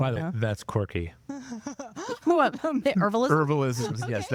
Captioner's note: laughing